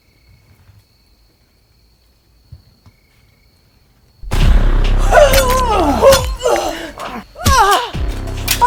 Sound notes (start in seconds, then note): 4.2 dramatic music; 5.0 Caroline moaning